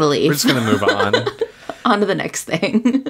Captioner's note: laughs